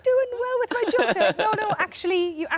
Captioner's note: Tom laughs